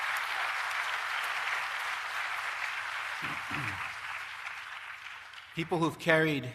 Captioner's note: applause